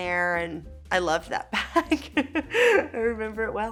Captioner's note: Elle laughing